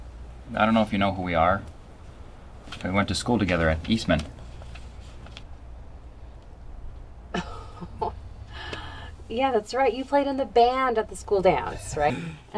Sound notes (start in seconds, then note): 7.3 laughs